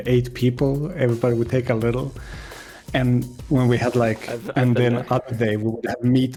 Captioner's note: sighs